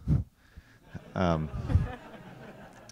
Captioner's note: laughter